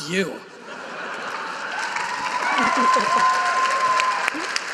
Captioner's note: audience cheering